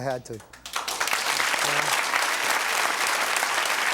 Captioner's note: audience cheering